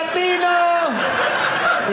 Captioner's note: audience laughing